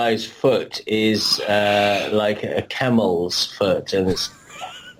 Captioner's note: laughs